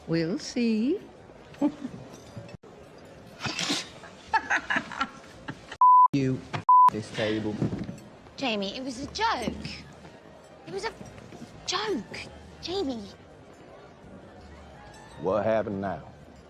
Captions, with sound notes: - We'll, let's see. (chuckles) (laughing) - (beep) you, and (beep) this table. - Jamie, it was a joke. It was a joke. Jamie - What happened now?